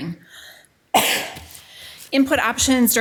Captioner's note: coughing